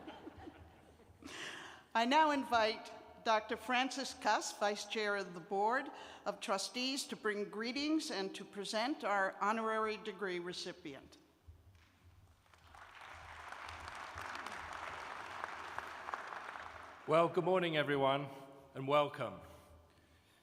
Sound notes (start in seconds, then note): 2.1 laughter; 12.2 applause